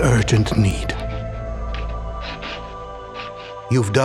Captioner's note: quill scratching